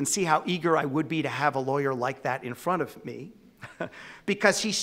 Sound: laughs

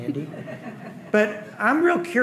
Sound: audience laughing

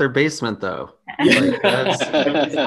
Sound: group laughs

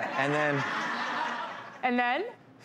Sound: laughter

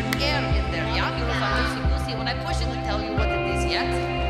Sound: kids talking

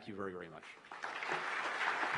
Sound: applause

